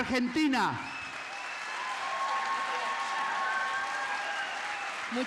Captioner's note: applause